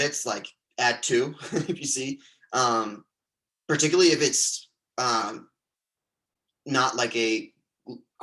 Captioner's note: chuckles